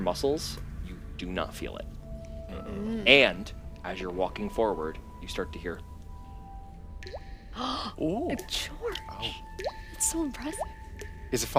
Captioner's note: water drops